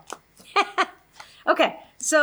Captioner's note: laughs